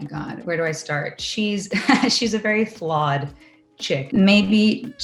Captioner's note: laughs